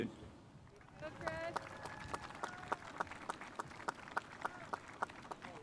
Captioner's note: spectators applauding